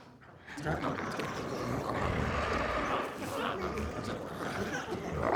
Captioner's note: glowzies growling